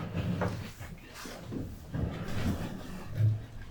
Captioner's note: chair rumble